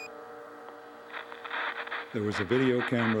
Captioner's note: static buzzes